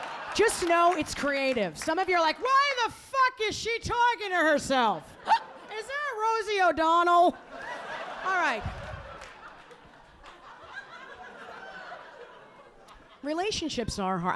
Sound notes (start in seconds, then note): 10.1 audience laughing